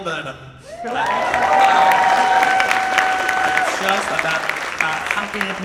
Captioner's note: audience applauds and cheers